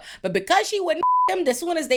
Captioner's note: beep